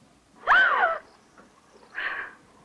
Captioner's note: gasps